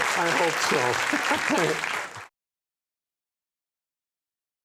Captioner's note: both laughing